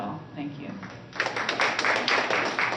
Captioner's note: applause